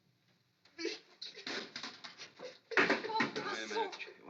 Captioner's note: crying